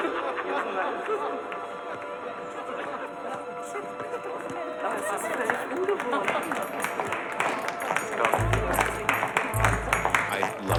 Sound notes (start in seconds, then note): 4.8 people chattering; 8.0 clapping